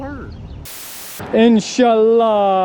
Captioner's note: static crackling